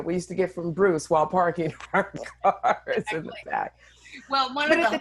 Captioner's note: laughing